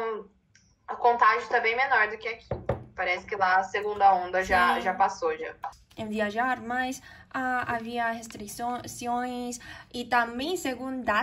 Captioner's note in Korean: 포르투갈어